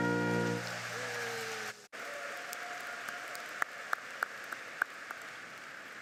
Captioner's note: audience applauds and cheers